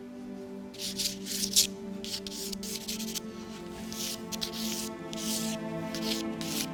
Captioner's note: soft music; paper grinding